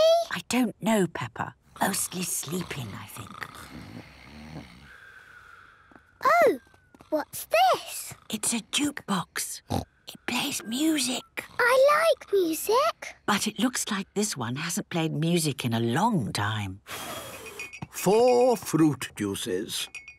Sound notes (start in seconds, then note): 3.9 snoring; 8.3 whispering; 17.0 blows